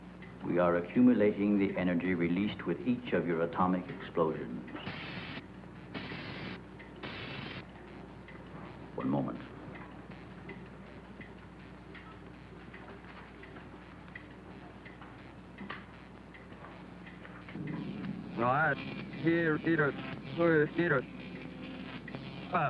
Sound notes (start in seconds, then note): 4.8 electricity crackling; 18.3 alien speaking foreign language